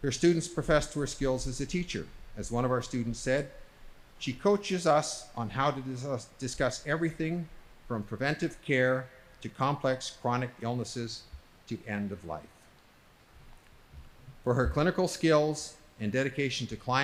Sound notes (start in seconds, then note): none